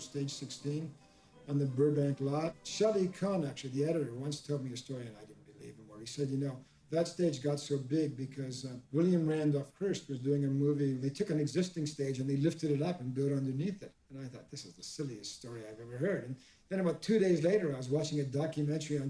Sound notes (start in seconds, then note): none